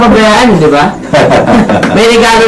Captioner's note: chuckles